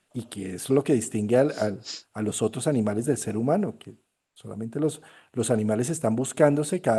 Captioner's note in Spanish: resoplido